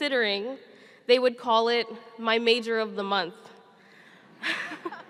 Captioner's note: laughing